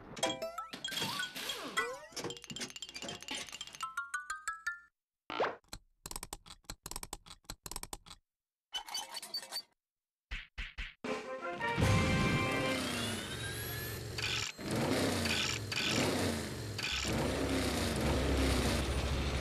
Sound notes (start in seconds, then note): 0.1 metallic clanging; 6.0 whirring; 11.9 engines revving